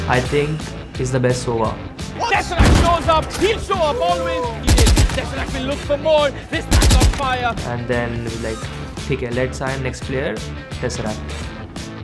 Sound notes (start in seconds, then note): 2.8 casters Cheering